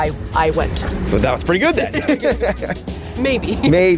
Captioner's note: laughs